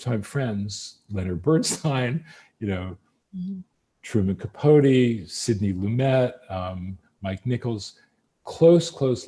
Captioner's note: laughs